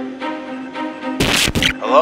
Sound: radio activation

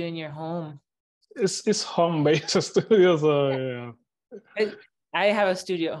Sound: laughs

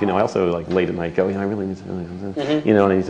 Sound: mumbling

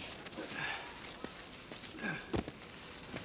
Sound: grunting

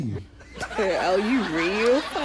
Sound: laughter

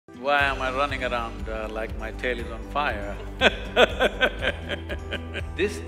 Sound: laughs

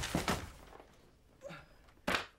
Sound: clatter

